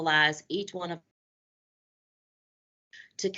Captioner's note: audio Break